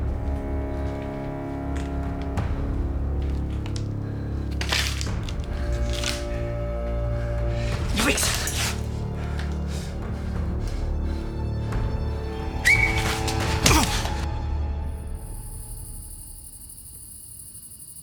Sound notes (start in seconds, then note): 4.2 glass crunching; 12.5 Brown whistling; 13.9 gun thudding; 13.9 officer groaning; 14.6 crickets chirping